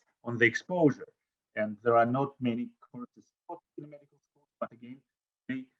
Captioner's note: audio drop